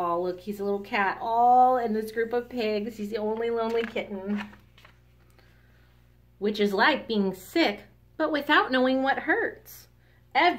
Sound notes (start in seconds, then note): none